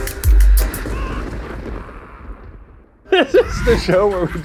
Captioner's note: Joker laughs